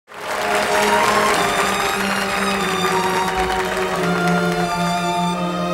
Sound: audience clapping

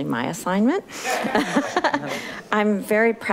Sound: audience laughing

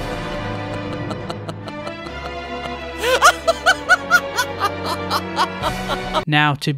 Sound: maniacal laughter

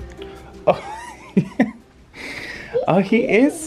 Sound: laughing

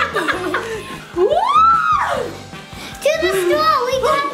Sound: dad laughs; mom screams

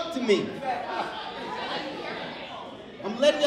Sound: overlapping chattering

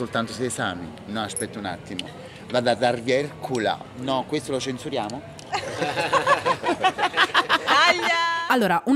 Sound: laughing

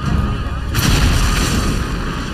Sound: booming; dramatic music

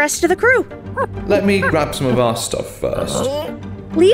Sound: ape noises

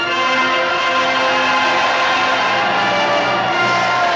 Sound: cheering

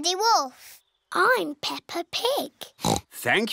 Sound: oinks

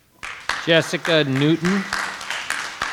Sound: audience applauding

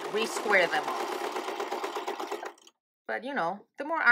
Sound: sewing machine clattering

